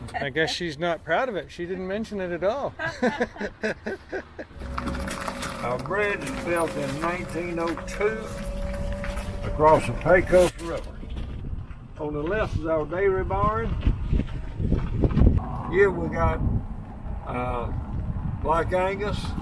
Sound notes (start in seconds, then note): 2.8 both laughing